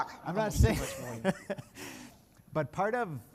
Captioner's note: laughing